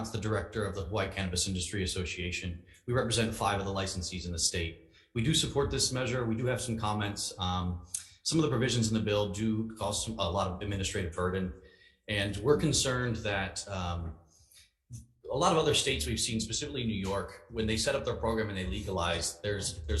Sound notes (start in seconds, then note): none